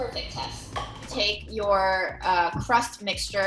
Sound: cup clatters

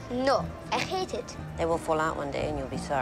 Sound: none

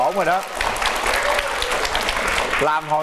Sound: clapping hands

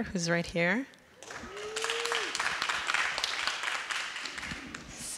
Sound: applause

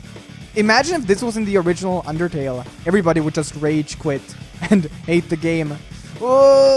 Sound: laughs

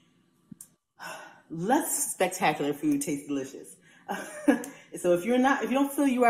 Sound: laughs

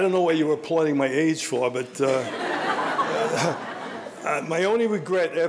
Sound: audience laughing; laughs

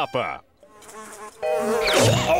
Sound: buzzing; choking

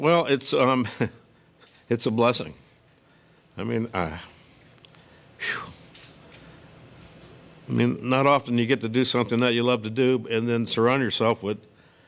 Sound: sobs

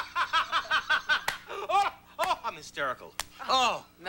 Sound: laughing harder

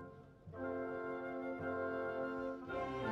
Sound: none

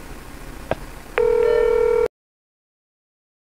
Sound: message Tone; phone Ringing

